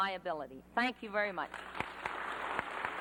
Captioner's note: applause